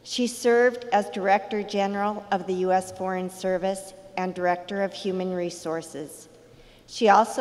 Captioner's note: none